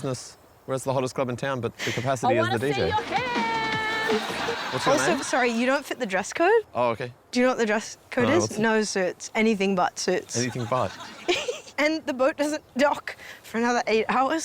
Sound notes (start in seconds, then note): 2.8 dance music plays; 10.3 laughs